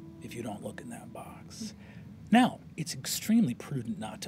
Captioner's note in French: none